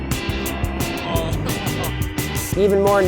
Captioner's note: laughing